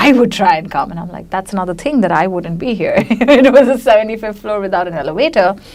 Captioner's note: laughs